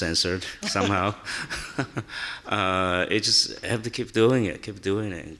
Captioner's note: laughing